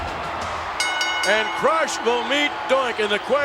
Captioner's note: bell rings